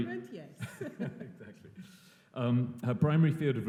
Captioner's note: laughter